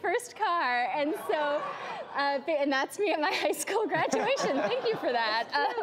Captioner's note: laughs